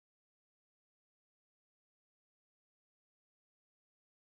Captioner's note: none